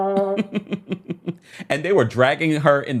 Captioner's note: presenter laughs